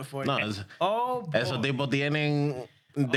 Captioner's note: speaking In Spanish